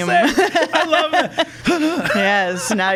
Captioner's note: laughing